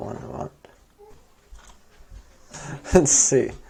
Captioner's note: near Silence